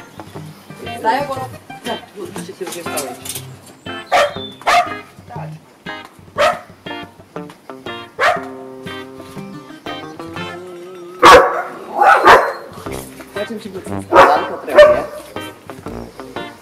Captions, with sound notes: [dog barking] We also do a bit of sport, ok? We have to.